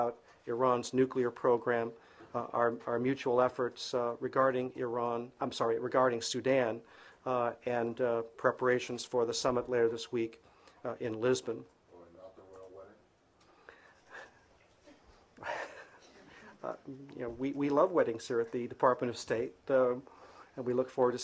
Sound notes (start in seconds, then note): 15.4 laughter